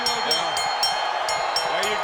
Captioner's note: bell rings